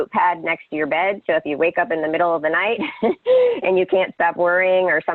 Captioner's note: laughs